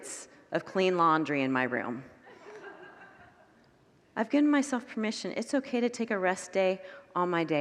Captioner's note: congregants laugh